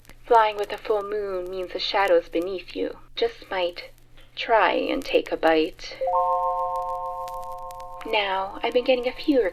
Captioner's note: chime